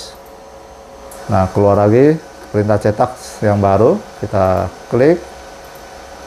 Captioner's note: clicking noise